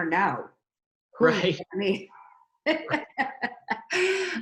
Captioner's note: laughs